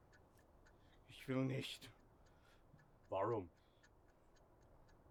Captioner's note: speaking German